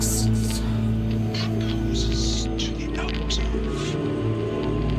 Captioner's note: raspy Voice